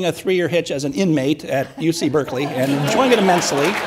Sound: audience laughs and applauds

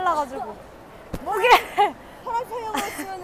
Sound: laughing

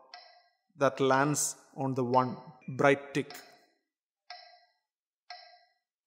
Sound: bright tick

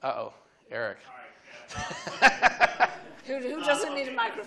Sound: laughs

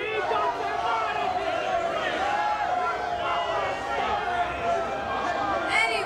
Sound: collective shouting

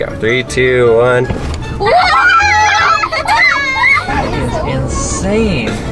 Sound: children laughing and yelling

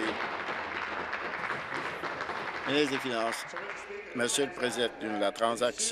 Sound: applause

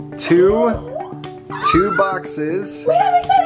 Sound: gasps

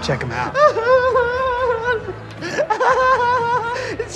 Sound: laughs

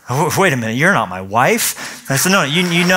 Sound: laughter

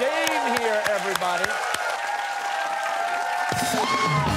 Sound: cheers and applause

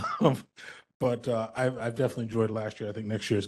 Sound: laugh; laughing

